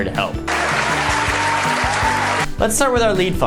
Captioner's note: crowd cheering